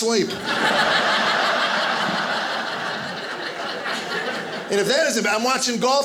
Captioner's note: audience laughing